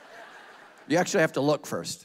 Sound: congregation laughing

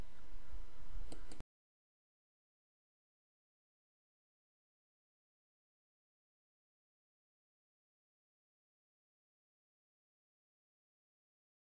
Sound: silence

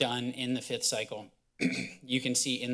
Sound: clears throat

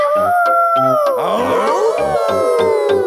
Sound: howling; all howling

